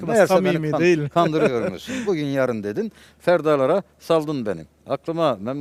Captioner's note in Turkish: kahkaha